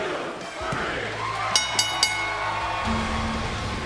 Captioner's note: bell rings; cheers & applause